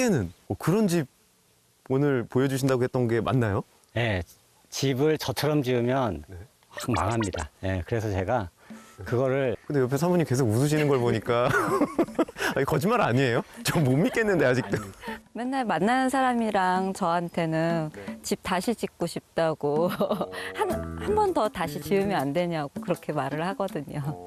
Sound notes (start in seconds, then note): 3.8 just laughs